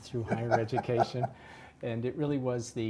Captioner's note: laugh